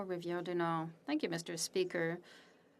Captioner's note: speaking French